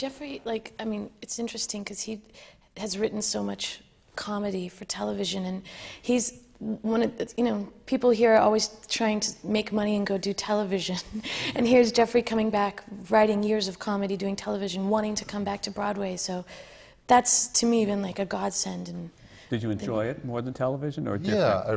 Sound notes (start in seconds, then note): 11.0 laughs